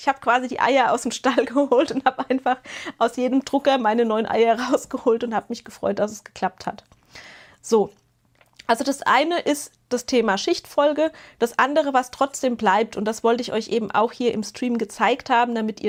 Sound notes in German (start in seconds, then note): 1.5 gelächter